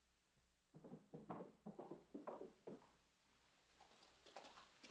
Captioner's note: horse approaching